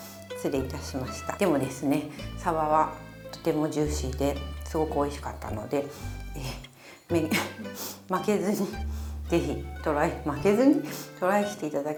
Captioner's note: laugh